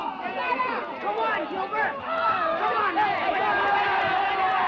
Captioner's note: men all yelling; Shuber yelling; men all yelling